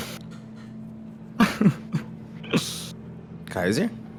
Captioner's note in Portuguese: Risadas